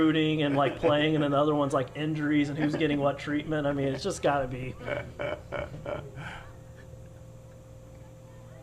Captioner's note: laughter